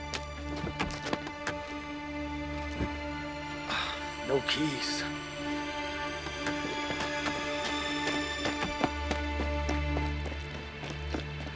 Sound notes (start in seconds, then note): 3.6 sighs; 8.2 running on gravel